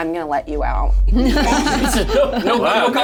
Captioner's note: all laugh